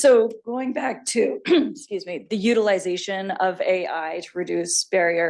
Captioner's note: clears throat